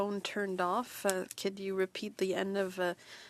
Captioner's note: speaking French